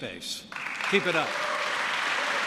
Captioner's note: applause